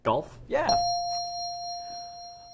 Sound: ding

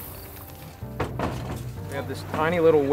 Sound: canoe clattering

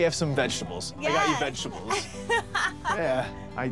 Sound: laughs

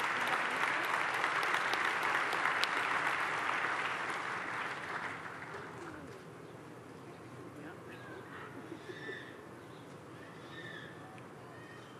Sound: applause

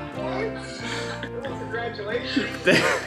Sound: laughter

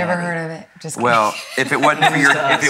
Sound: laughs

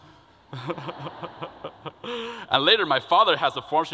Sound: laughter

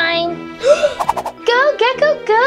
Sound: gasping

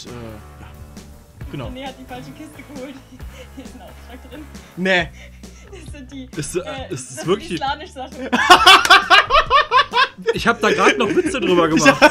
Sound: awkward laughter; more awkward laughter

